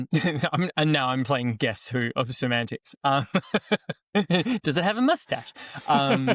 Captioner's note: laughs